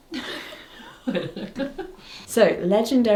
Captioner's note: laughs